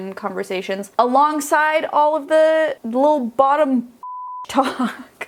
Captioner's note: beeping